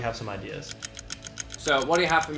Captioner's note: clock ticking